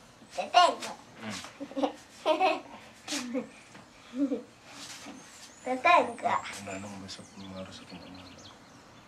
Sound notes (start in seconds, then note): 2.3 girl giggles